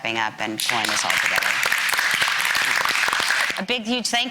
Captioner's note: audience applauding